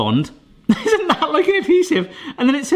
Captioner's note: laughs